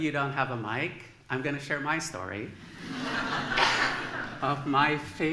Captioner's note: laughter